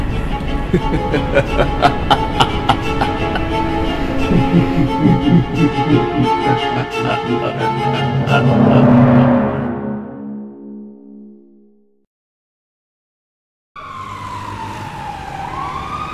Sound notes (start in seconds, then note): 0.6 maniacal laughter